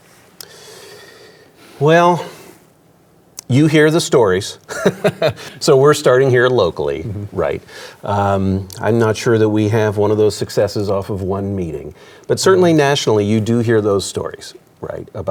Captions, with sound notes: - Well, you hear the stories. (laughs) So we're starting here locally, right? I'm not sure that we have one of those successes off of one meeting. But certainly nationally, you do hear those stories, right?